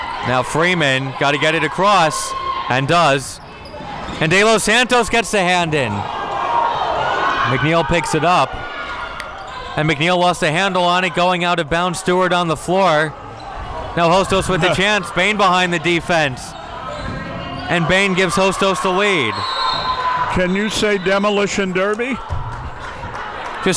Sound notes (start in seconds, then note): 19.0 whistle blows; 21.4 audience clapping